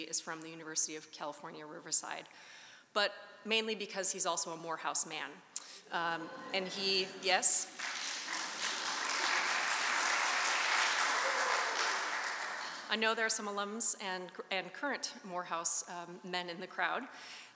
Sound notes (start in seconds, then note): 6.2 audience chuckling; 7.6 audience applauding